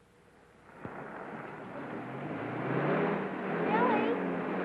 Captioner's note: car revving